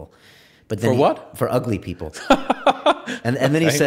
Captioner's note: laughs